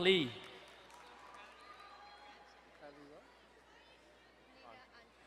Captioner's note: crowd cheering and applauding